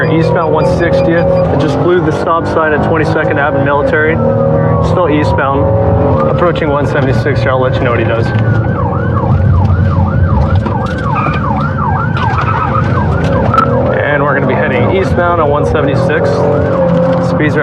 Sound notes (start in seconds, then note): 9.3 sirenen w waililingn